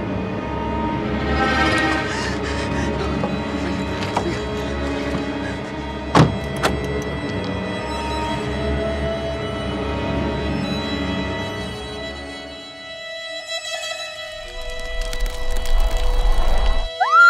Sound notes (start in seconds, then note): 2.0 gasps; 2.0 frightened mumbling; 6.1 door lock; 14.3 fire crackling; 16.9 screams